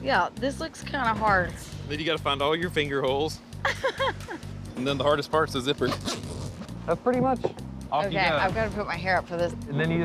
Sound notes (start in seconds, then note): 3.6 giggles